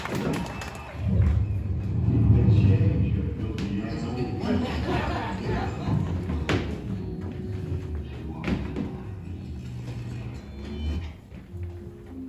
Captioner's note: universe shifting sounds